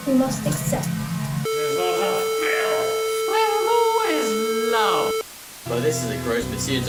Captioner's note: various glitchy sounds